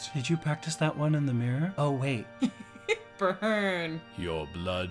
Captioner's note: laughs